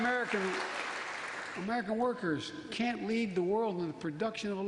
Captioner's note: applause